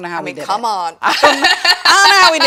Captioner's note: laughs